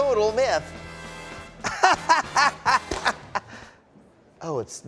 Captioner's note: laughs